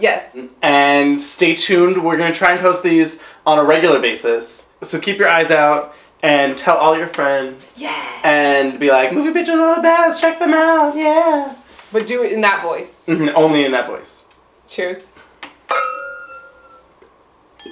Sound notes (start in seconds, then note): 9.0 in a weird high-pitched voice; 15.7 wine glass clink